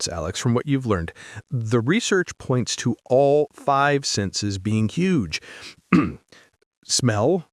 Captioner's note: clears throat